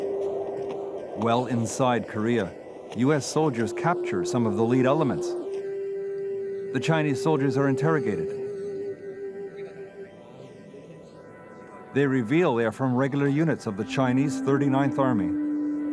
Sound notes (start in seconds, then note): 9.0 speaking foreign language; 15.7 somber music